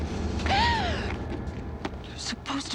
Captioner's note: rustling; exclaiming in horror